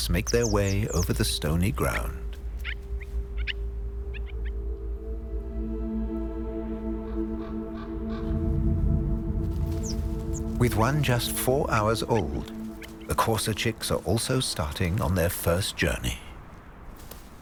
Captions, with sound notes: make their way over the stony ground. (birds chirping) (light dramatic music) With one just four hours old, the courser chicks are also starting on their first journey.